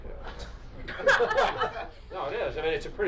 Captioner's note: press pool laughs